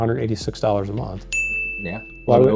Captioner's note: bell dings